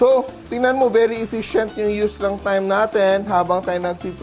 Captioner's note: sizzle